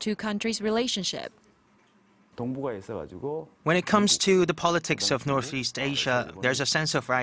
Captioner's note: Korean